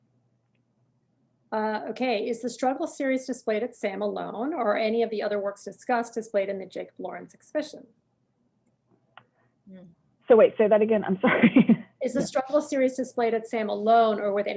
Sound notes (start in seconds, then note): 11.1 chuckles